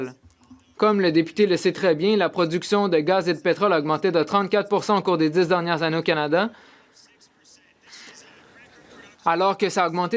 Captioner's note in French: voix de l'interprète